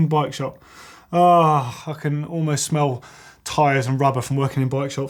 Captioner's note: sighs